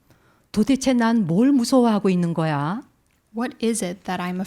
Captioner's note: speaking in Korean